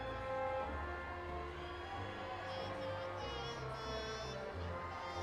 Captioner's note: audience applauding and cheering